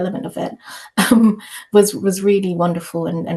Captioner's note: chuckles